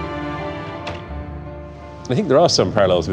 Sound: door shuts

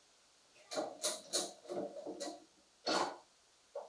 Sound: clamp clicks

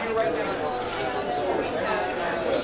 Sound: background chatter

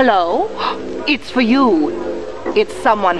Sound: gasp

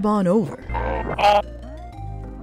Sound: Kremling grunt

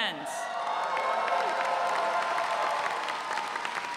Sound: audience cheering

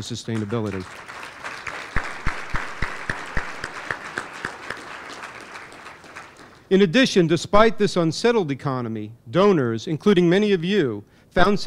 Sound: applause

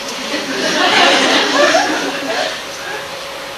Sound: audience laughs

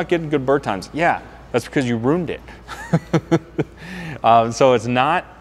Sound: laughing

